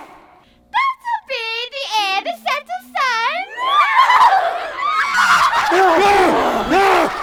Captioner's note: laughter